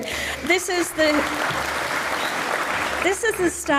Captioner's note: audience applauds